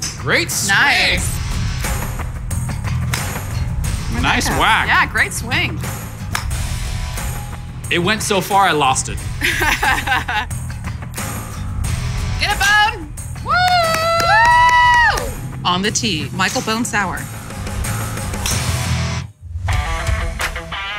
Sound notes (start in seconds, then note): 9.4 laughing; 13.4 cheering and clapping